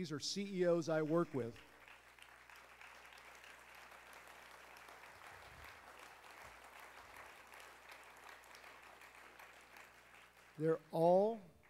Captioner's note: applause